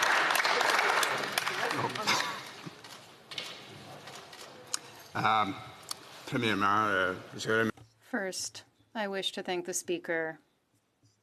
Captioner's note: some Applause